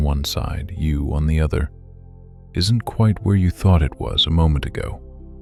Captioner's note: soft voice